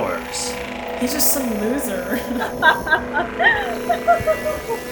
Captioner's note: laughs